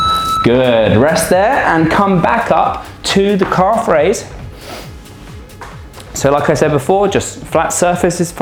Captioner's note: snorts